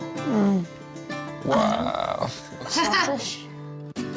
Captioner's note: Pati laughs